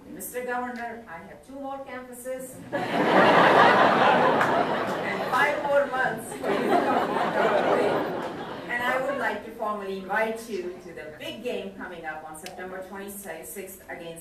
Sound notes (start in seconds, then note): 2.6 crowd laughing